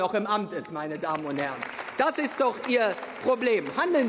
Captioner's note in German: Beifall